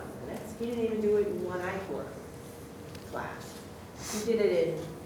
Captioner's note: voice muffled